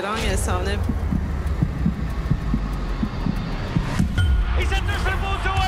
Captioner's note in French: battements de coeur